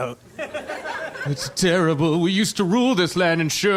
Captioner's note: audience laughter